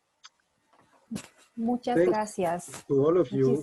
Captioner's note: speaking spanish